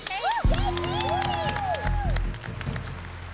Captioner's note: whooping